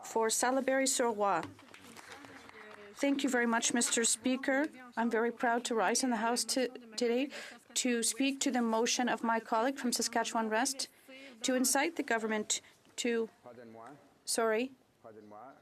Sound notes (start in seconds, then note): 2.1 speaking French